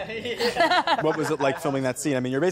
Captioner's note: all laughing